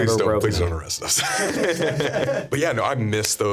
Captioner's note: laughing